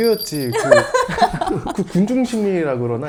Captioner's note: ha ha ha ha ha ha